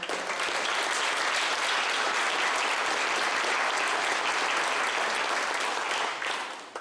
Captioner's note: clapping